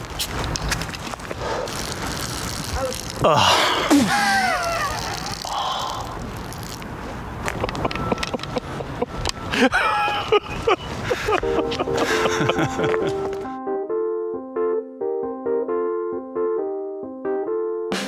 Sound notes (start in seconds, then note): 2.0 urine sprinkles; 2.4 groans; 9.5 laughs; 11.4 soft music